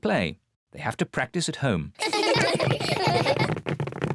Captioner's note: children laughing